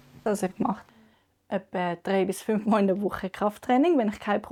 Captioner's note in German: none